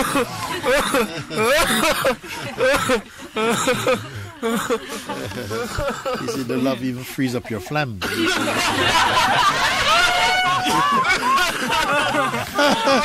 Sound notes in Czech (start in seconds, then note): 8.0 smích